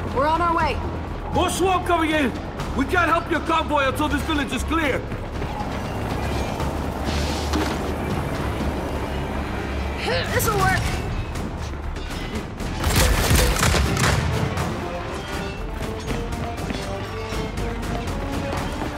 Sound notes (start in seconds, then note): 12.8 gunfire